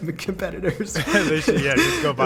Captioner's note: laughing